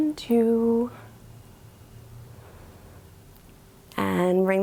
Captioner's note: inhales